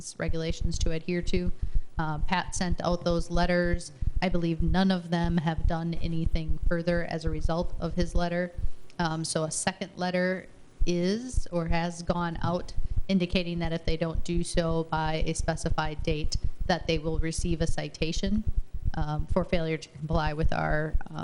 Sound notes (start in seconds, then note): none